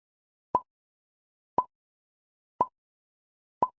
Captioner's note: timer ticking